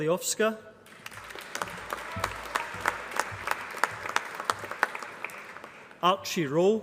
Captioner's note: applause